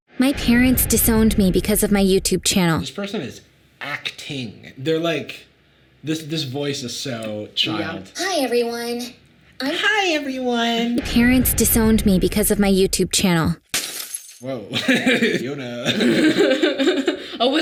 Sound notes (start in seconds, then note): 13.7 glass breaking; 14.7 laughs; 15.8 Sadie laughing